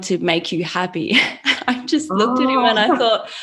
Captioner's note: chuckles